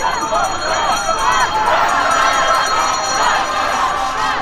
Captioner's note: bells clang; horn honks